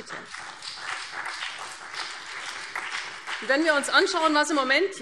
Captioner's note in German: Beifall CDU und BÜNDNIS 90/DIE GRÜNEN